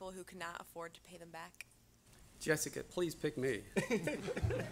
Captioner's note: audience laughter